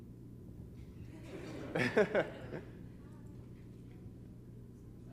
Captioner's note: laughter